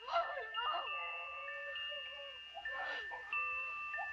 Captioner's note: baby cries